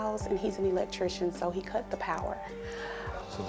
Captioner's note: audience groans